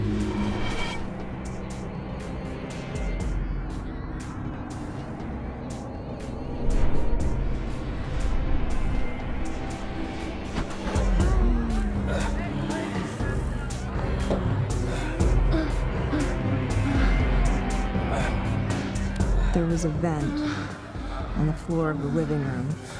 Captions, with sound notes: (sinister music continues) (people moaning) There was a vent on the floor of the living room.